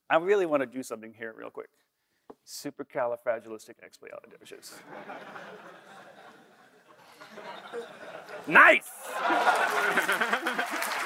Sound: laughter; applause

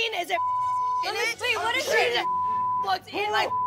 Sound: beep

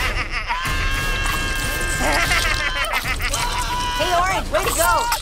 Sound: laughing; agonized screams

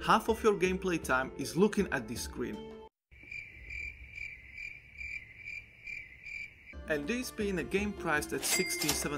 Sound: crickets chirping

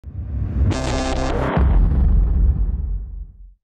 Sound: dramatic boom

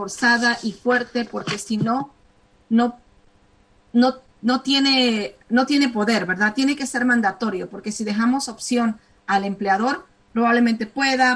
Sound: speaking spanish

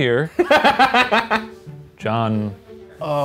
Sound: laughing

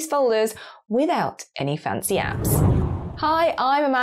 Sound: air whooshing

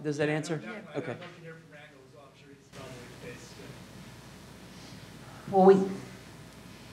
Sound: speaking off mic

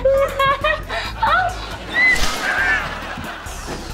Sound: laughing; squealing

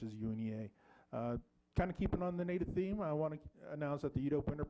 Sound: none

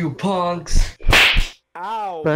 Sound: slapping and punching noises

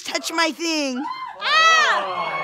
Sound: crowd cheering

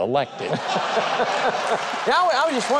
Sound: audience laughing

